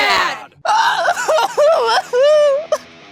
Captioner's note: bleeding Kid Sobs